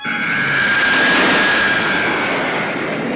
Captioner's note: zooming